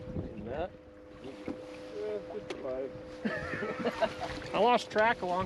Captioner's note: laughter